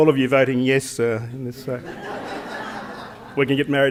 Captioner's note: laughter